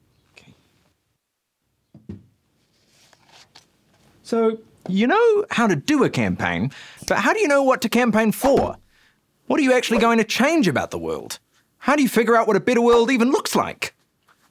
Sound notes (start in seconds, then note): none